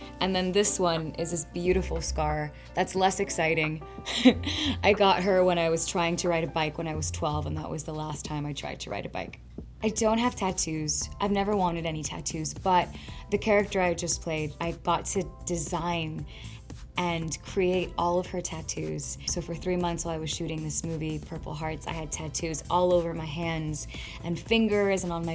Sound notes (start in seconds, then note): 4.1 giggles